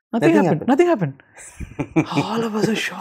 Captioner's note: laughter